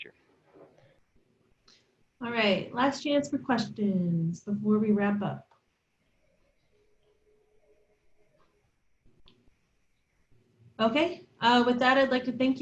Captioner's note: silence